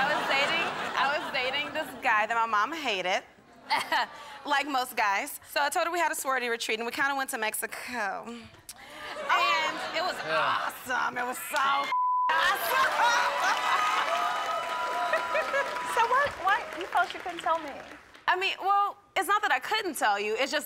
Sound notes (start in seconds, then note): 8.9 crowd laughs; 11.9 beep; 12.3 audience applause